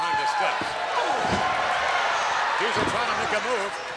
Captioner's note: crowd cheering